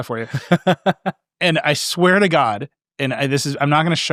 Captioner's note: laughing